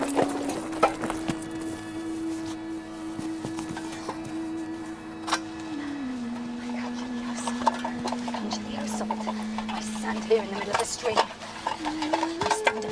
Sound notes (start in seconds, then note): 3.1 clattering